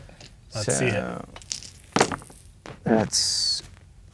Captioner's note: dice rolling